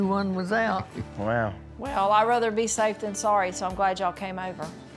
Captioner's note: none